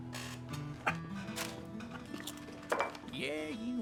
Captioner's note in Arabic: يضحك